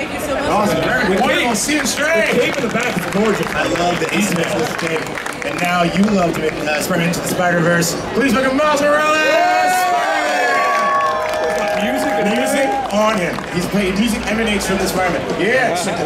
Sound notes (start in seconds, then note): 0.0 audience chattering; 2.9 audience clapping; 9.1 audience cheering